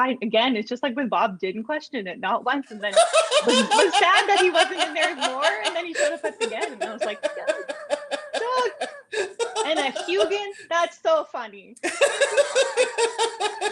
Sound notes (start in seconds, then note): 2.9 audio muffled by laughter; 11.8 laughter